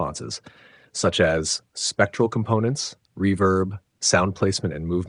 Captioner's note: click